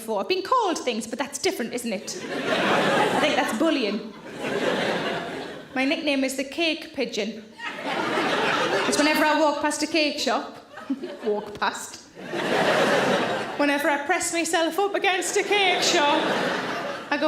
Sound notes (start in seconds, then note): 2.0 audience laughing; 4.2 audience laughs; 7.6 audience laughs; 12.1 audience laughs